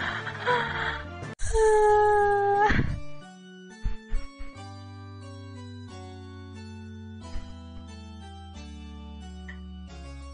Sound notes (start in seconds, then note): 0.7 cries